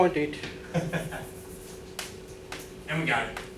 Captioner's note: chuckling